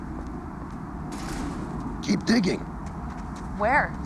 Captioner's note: door closes